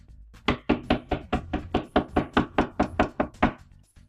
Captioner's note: repeated knocking